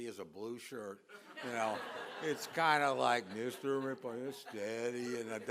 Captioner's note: laughter